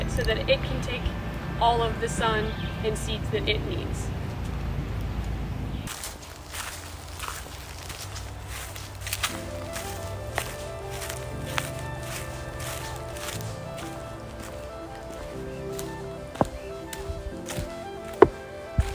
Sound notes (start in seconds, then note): 7.6 footsteps crunching leaves; 10.7 peaceful music